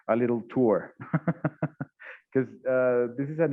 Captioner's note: laughs